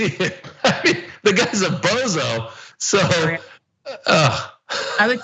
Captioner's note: laugh